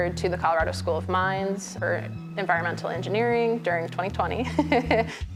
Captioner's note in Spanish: risas